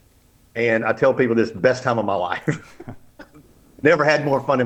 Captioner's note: laughs